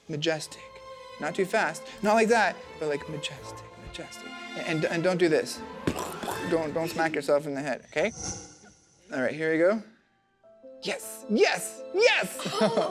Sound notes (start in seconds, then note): 1.9 light orchestral music; 5.8 imitating crashing